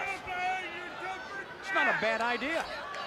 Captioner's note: crowd chatter